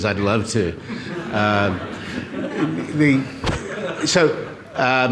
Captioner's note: audience laughs